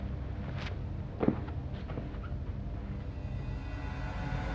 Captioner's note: footsteps; chilling tone rising